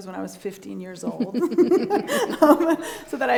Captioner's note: both laughing